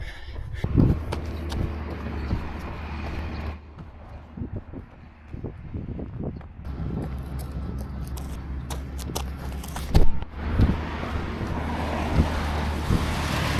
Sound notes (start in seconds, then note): 0.0 wind blowing